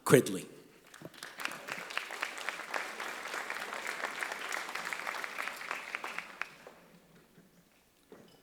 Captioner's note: applause